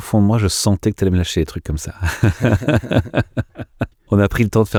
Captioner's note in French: Ensemble: Rires